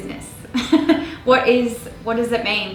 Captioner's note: laughs